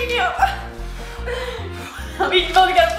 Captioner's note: air blowing